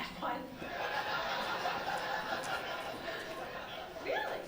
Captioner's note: laughter